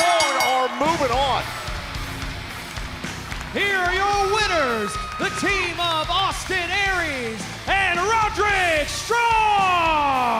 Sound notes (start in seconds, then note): 0.0 bell ringing